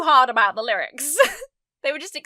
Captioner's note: giggles